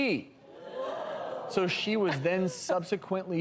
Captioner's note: crowd gasping